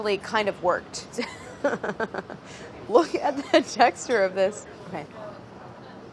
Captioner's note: laughs